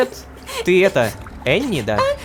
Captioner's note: cries